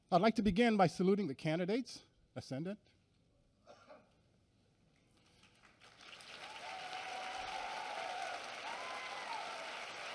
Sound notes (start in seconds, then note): 5.3 applause and cheering